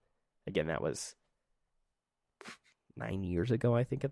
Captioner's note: silence